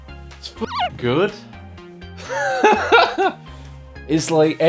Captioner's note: laughs